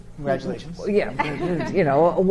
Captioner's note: chuckles